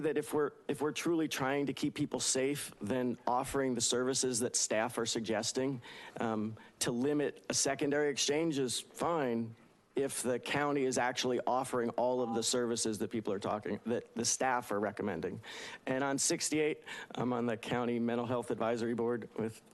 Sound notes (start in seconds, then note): 12.1 beeping